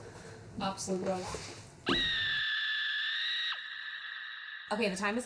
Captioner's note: person screaming